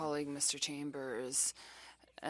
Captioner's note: speaking French